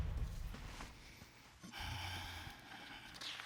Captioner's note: sighs